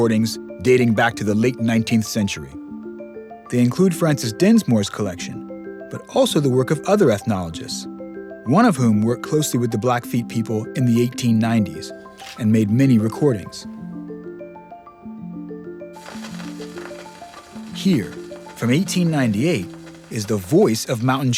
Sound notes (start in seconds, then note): 16.0 static